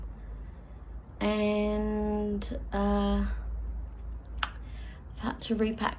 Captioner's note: makes mouth smacking noise